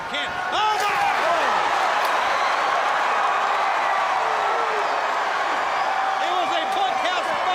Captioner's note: crowd cheering